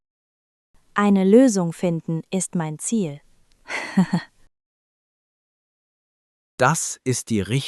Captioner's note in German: lacht